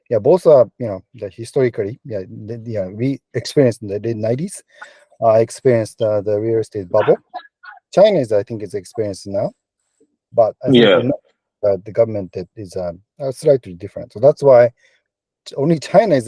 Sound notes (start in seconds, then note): 10.7 bubble